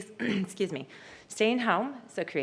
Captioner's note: clears throat